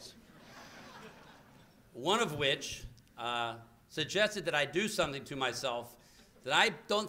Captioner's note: laughter